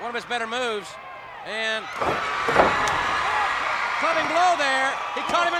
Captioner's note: blows thudding; crowd cheering; hands thudding